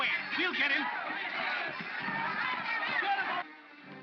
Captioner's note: mob clamors; dramatic whimsical music